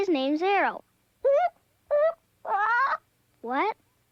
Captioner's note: bird squawks